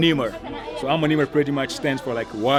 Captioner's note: speaks in foreign language